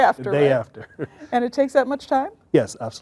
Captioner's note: laughs